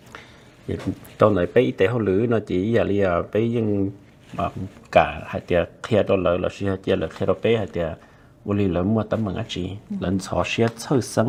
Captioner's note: Speaking in Hmong